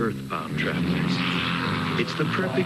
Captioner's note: plane engine roaring